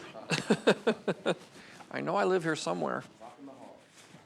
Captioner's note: lucas laughs